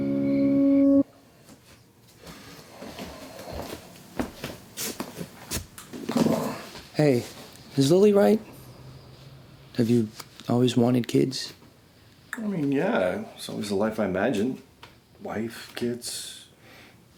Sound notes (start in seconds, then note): none